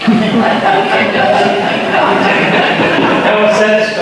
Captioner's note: audience laughter